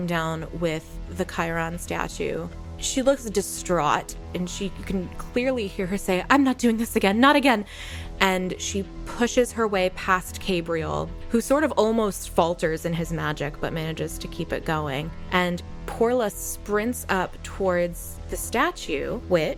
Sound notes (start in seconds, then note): none